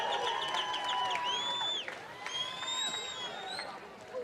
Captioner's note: cheering and applause